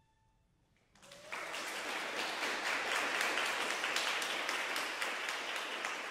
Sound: audience cheers and applauds

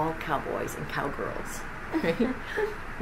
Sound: laughs

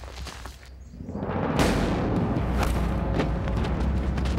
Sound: gun fires

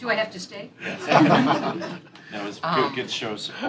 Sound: laughter

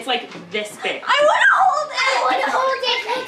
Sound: squealing

